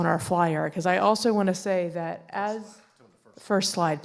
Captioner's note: speaking quietly